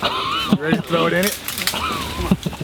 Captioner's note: laughing